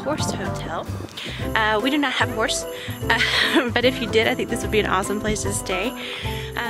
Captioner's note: laughs